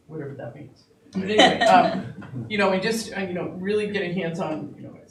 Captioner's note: laughing